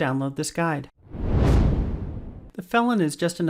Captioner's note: air whooshing